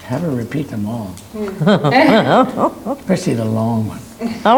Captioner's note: laughing